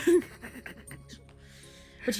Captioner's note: laughter